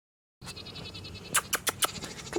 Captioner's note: smacking lips; goat bleating in background